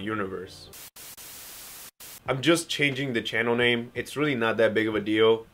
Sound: Static

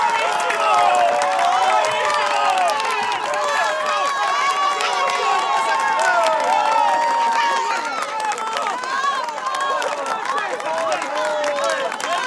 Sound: applause

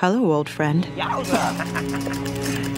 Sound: cutest laugh ever

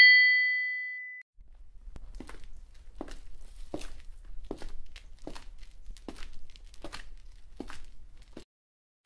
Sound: footsteps approaching

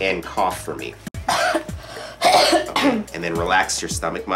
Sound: coughing

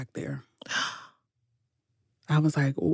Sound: gasp

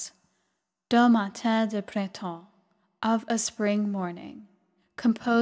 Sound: speaking french

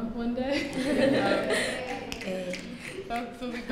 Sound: cheering

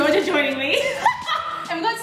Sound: laughing

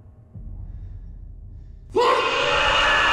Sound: screaming

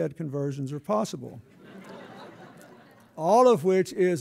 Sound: laughter

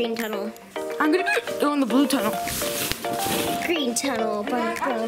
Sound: hiccups

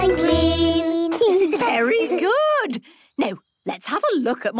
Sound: children giggling

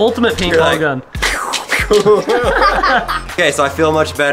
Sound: laughing

